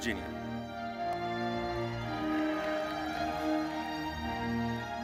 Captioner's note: crowd cheering; orchestral music continues